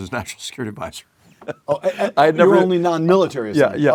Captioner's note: laugh